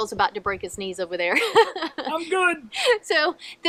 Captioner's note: laughing